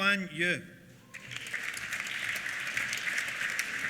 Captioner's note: applause